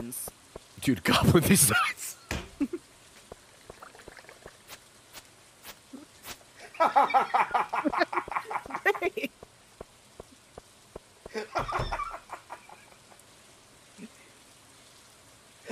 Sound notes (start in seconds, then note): 4.4 dying in the back; 4.4 laughs